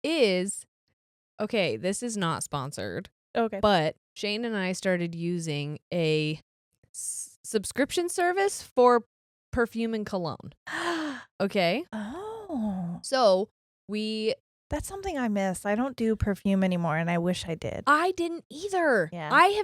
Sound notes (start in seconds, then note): 10.7 gasping